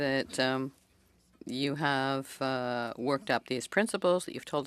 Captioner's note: speaking French